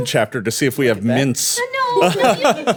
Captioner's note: laughing